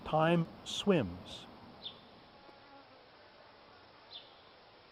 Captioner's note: birds chirping